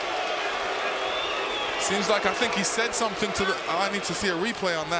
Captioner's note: crowd booing